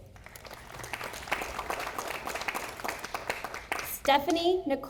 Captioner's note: audience applauding